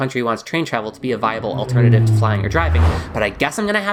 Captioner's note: plane and car sound effects